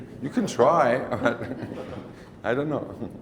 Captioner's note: laughs